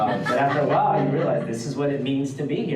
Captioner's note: audience laughs